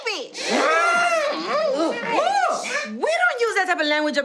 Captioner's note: gasping and screaming